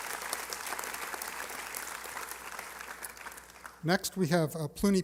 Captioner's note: applause